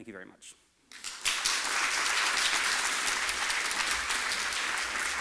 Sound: applause

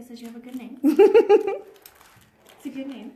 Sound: laughs

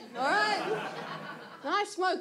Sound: audience laughs

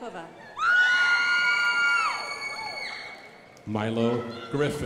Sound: crowd applauding

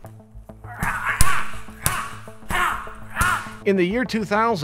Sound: man yelling

